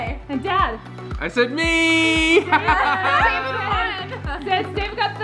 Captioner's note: laughs